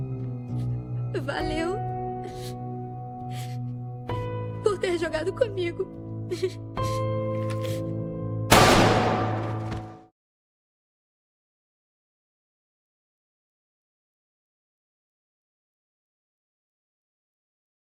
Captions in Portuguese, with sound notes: "valeu" *chorando* "por ter jogado comigo." *som de tiro*